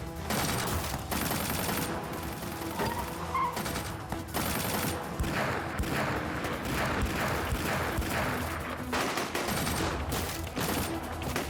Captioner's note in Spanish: tiroteo